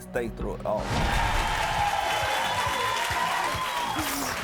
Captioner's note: applauding